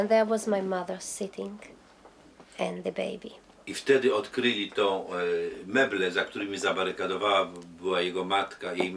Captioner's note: speaking Polish